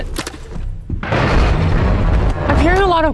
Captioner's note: more rumbling?